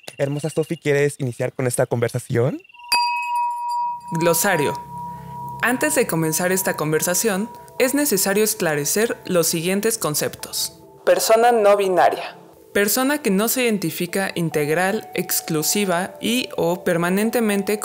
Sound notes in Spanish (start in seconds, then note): 2.9 Sonido de campana